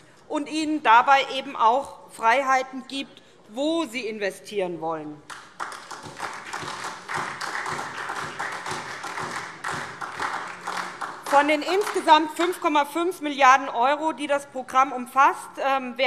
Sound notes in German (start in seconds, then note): 5.2 Beifall SPD